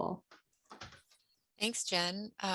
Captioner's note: door thuds